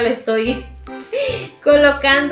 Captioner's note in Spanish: risas